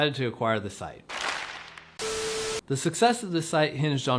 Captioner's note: film beeping